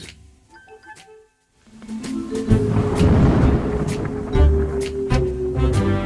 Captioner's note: inquisitive jazz music; thunder rumbling